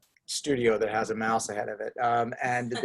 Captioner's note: people laughing